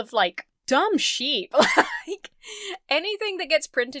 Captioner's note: laughs